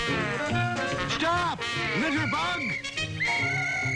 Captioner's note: whistles